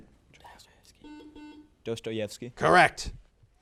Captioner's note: buzzer buzzes